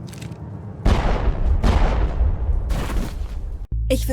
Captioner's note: bang